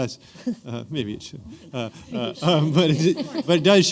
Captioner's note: laughter